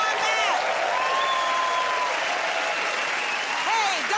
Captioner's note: cheers and applause